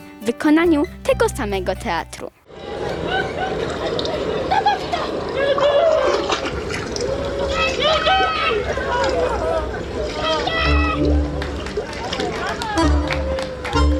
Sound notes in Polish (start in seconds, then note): 2.5 odgłos lanej wody; 11.0 oklaski